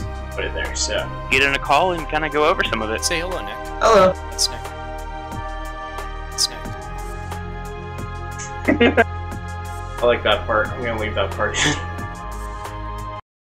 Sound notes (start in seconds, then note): 8.4 giggle